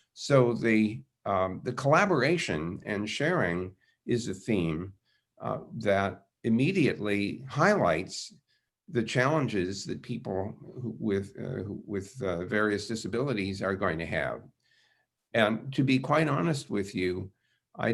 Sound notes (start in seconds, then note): none